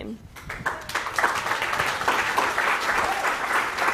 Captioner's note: applause